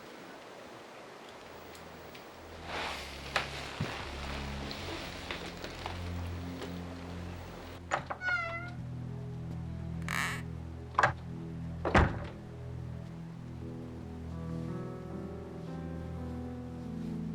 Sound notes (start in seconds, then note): 2.6 dramatic music; 10.0 door creaking